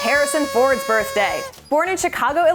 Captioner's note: party horn